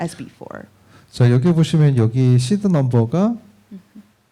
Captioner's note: speaking korean